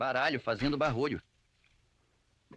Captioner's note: cards rattling